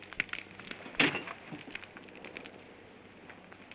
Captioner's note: thump